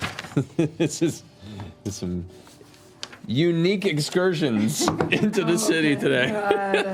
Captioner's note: laughing